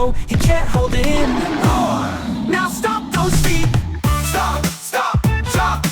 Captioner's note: ahh!